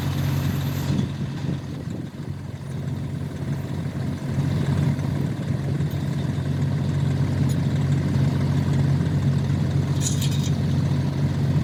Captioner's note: engine noise